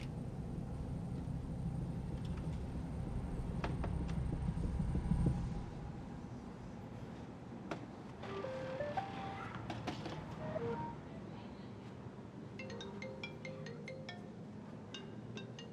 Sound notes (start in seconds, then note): 8.1 upbeat beeping sound; 10.4 downbeat beeping sound; 12.6 phone rings